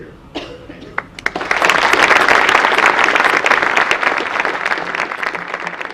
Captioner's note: audience applause